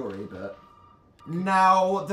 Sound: phone rings

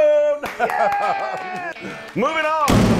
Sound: applause

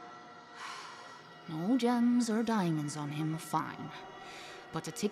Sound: sighs

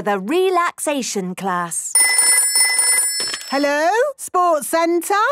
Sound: phone ringing

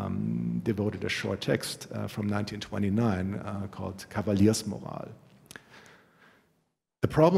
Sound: german

